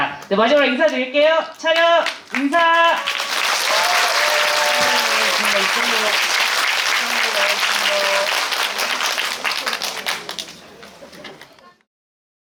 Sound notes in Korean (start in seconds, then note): 3.4 박수